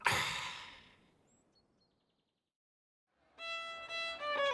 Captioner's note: Doug sighs; country fiddle music